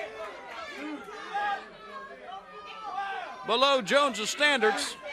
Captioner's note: crowd chatter